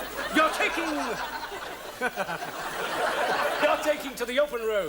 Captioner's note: audience laughs